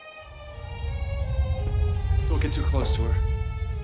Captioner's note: rumbling crescendo